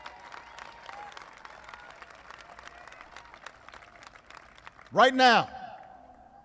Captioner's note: applause